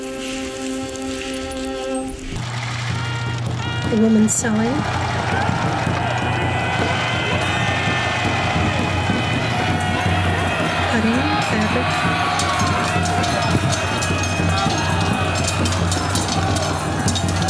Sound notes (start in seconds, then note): 1.7 battle noises